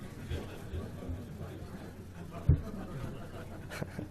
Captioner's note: audience murmurs